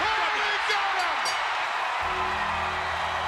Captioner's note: bell ringing